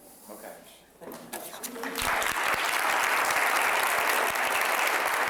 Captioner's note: applause